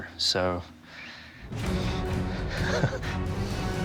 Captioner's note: laughs